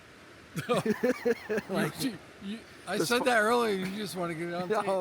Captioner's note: laughs